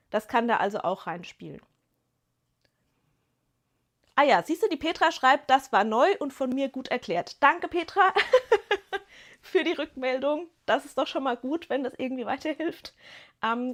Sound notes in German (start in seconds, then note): 8.1 gelächter